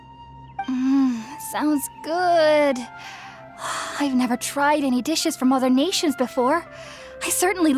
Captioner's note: drooling